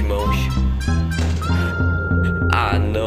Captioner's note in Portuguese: Suspiro